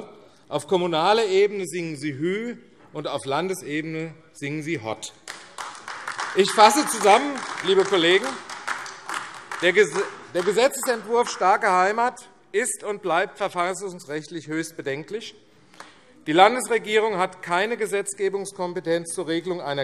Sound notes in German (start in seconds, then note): 5.2 Beifall AfD